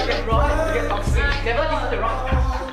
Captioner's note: noise of kids messing around